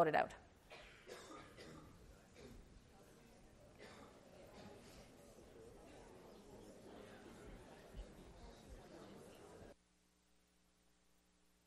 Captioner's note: classroom chatter